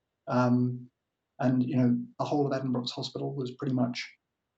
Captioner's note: murmurs